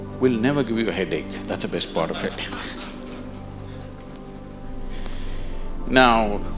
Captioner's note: laughter